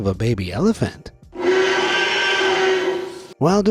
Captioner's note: audio rolls; baby elephant trumpets